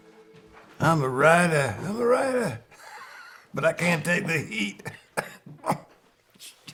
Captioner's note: laughing; laughs